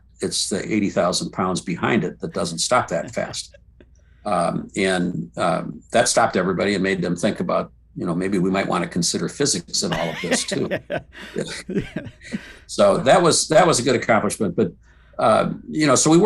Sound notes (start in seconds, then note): 9.8 laughs